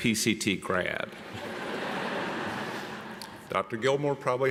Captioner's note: audience laughs